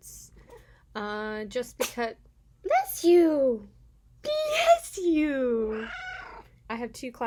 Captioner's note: cat sneezes; cat meows